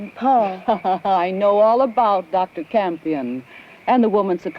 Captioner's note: laughs